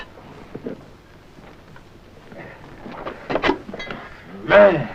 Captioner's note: bottles clinking